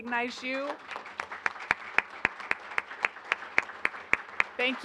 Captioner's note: applause